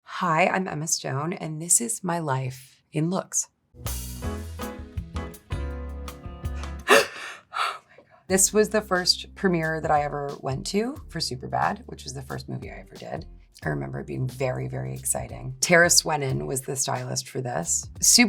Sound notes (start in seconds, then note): 3.9 upbeat music; 6.8 person gasping